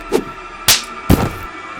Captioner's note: smack